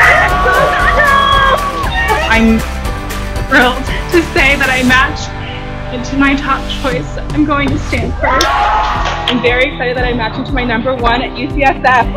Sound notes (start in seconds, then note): 0.0 cheering; 1.8 horn; 8.1 cheering